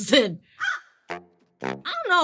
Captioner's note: crows cawing; upbeat playful music